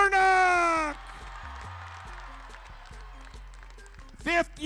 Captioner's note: crowd cheering